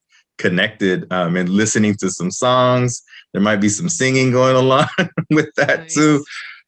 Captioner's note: laughs